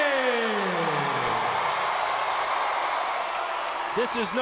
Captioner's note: audience cheering and clapping